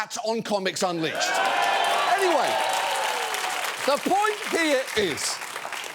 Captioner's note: cheers, applause